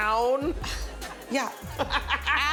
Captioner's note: scoffs; laughs